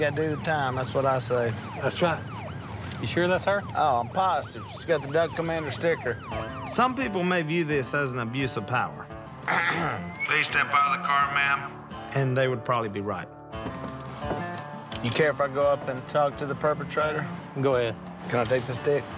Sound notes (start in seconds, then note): 9.5 clears throat